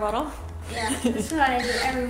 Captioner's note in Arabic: ضحكات خافتة من الكريستال